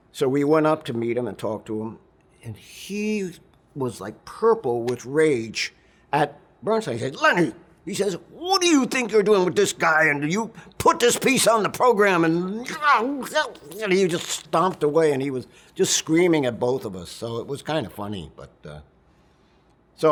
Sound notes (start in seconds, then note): 12.6 angry sounds